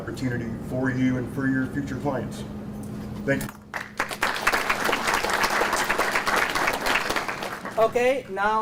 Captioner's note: audience applauds